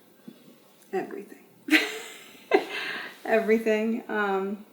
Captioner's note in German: lacht